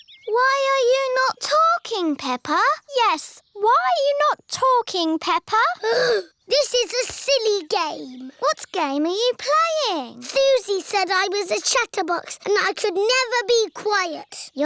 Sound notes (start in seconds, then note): 5.8 sighs